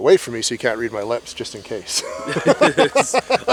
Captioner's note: laughs